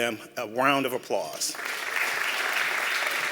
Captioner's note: applause